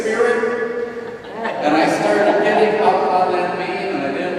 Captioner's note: audience laughs